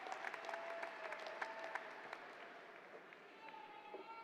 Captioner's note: applause